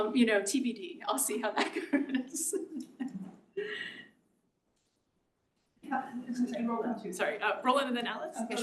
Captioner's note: laugh